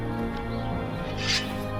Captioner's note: sword unsheathed